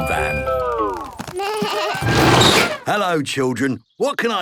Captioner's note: bleating, trumpeting